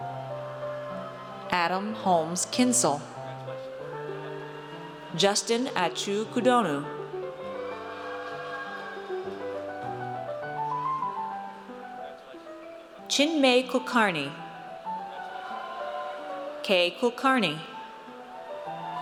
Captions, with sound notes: Adam Holmes Kinsel. Justin Atsou Koudonou. (audience cheers) Chinmay Kulkarni. K Kulkarni.